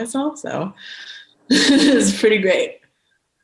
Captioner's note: chuckles